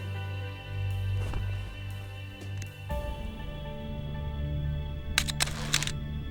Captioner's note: camera click